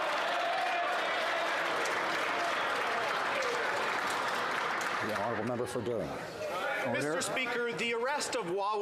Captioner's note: some Applause